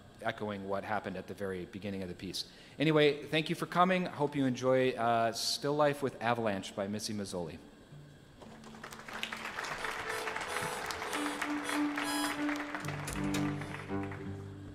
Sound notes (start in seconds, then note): 8.4 audience applauding; 11.4 instruments tuning